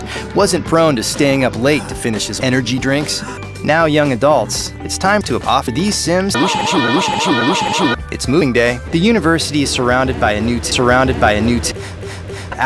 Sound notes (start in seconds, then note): 6.3 shouting and honking noises played backward and forward; 11.7 repeated breathing noises